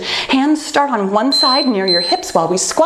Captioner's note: timer beeping